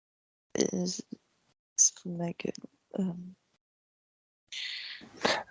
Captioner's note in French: chuchote